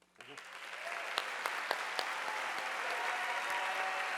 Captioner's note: audience applauding